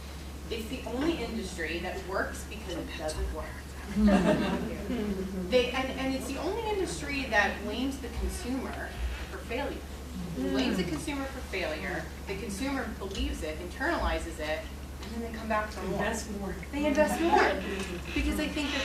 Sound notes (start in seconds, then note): 3.9 laughter